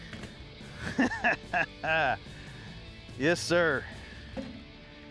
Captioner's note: laughter